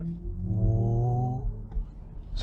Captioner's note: mimics BMW sound